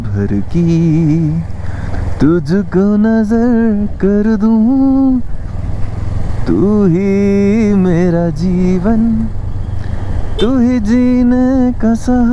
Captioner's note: humming song